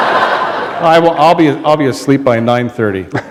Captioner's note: laughter